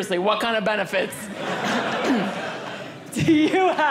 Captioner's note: audience laughing